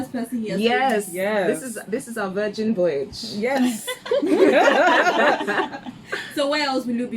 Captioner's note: laughs